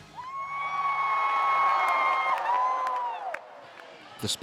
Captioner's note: cheering